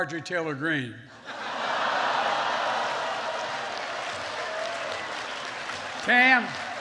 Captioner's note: laughter and applause